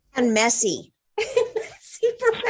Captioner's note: laughing